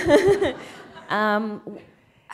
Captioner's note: laughter